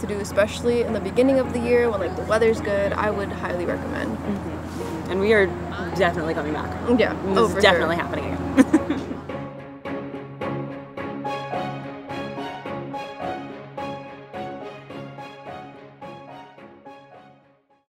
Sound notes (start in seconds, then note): 8.5 laugh